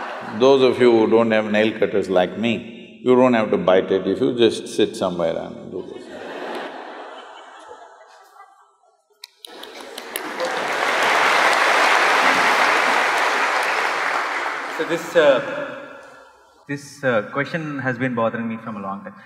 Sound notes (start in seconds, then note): 10.6 laughter/Applause